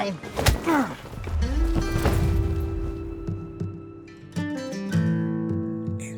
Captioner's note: soldier grunts; gentle music